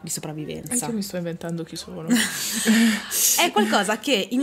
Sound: laughing

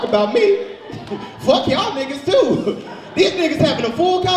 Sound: laughs

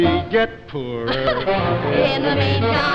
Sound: laughing

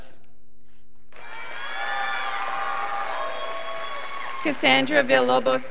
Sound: scholars applauding

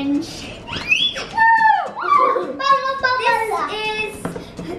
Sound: squealing

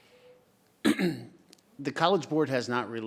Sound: clears throat

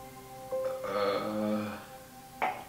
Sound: groan of uncertainty

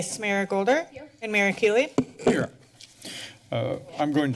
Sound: mic adjustment

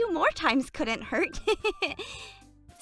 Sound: chuckles

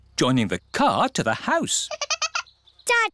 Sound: giggling

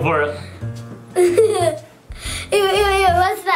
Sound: laughs

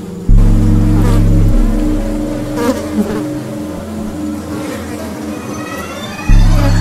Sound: flies buzzing; uneasy orchestral music

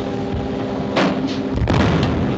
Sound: explosion

